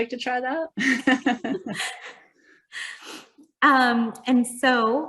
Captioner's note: both chuckling